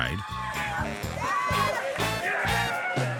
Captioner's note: hollers